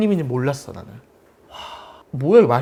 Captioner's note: sigh